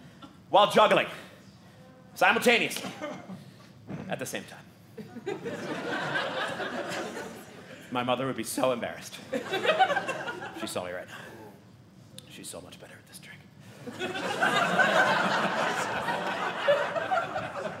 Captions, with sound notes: while juggling, simultaneously, at the same time. (audience laughing) My mother would be so embarrassed, if she saw me right now. She's so much better at this trick. (audience laughing)